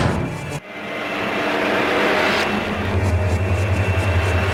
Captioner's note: orb humming